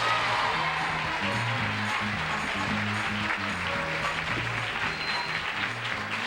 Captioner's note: cheers and applause